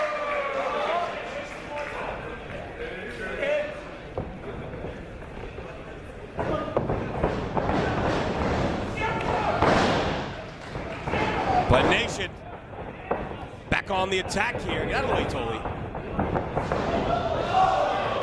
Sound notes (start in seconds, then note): 6.9 applause